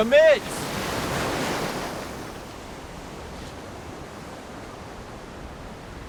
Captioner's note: waves continue crashing